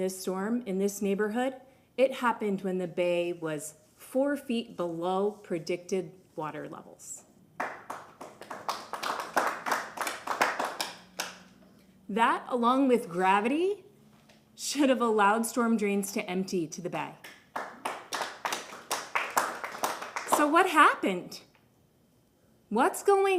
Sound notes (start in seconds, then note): 13.1 applause